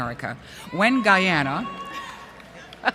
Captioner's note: yell From Audience